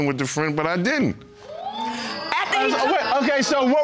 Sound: audience exclaiming

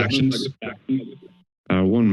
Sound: speaker feedbacks

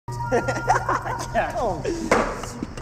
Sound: boys laughing, chatting

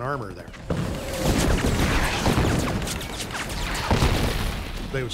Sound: rapid gunfire exploding

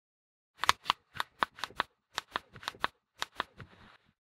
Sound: click

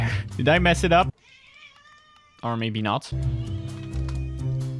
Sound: cat meowing

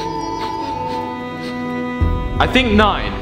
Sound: sniffing

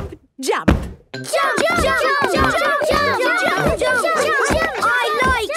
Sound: all shouting "Jump! Jump!"

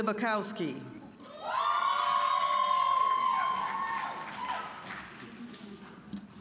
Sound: audience cheering

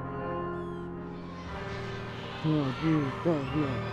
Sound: children chattering

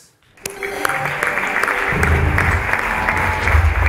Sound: audience clapping

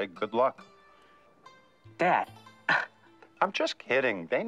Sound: laughs

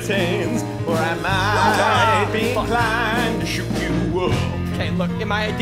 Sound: singing; speaking

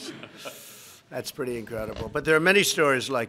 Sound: laughter

